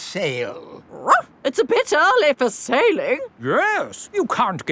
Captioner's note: barks